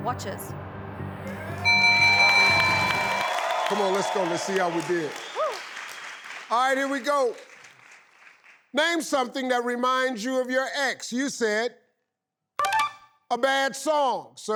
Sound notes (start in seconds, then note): 1.3 audience applauding; 1.6 bell dinging; 12.5 tinkling